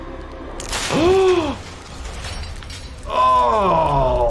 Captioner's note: intense instrumental music; person gasps